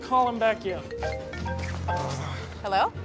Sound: phones ringing

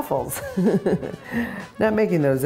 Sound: chuckling

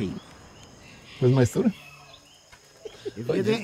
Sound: laughs

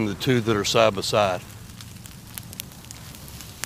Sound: fire crackling

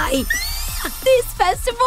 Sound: ecstatic squeal

